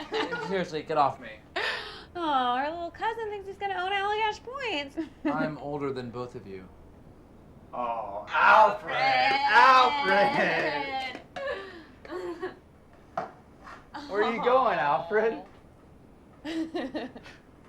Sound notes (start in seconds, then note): 11.3 laughing